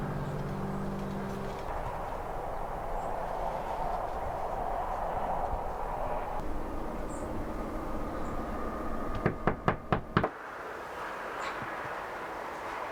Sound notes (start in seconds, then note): 9.0 rapid knocking